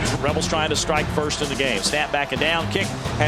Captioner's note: voiceover